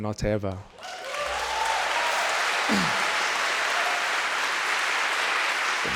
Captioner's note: crowd clapping; crowd cheering